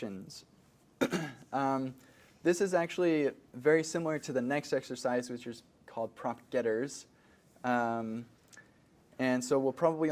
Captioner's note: cough